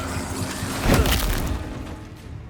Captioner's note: crack